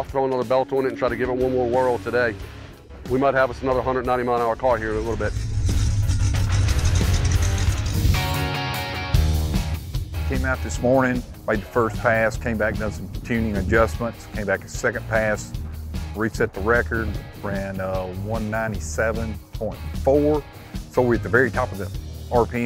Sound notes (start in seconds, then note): 4.5 car engine revving; 8.5 upbeat music